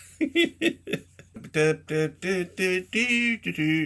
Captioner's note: humming